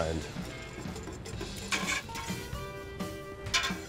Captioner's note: whisking